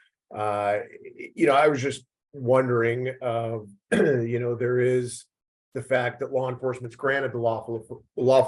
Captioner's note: cough